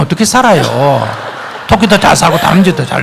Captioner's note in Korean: 청중 웃음